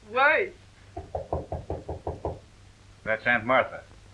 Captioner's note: knocking at door